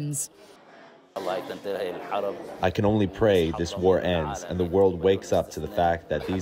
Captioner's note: through translator